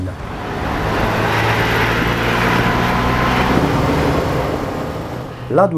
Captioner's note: driving sound